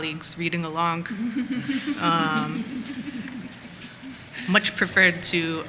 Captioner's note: laughter